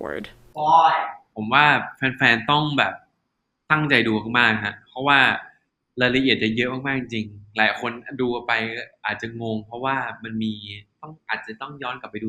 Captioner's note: answering in Thai